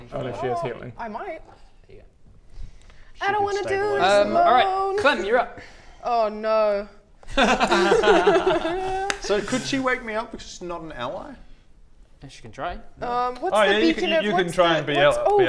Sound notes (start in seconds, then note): 7.2 carefree laughter